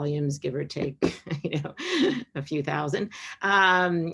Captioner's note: laughs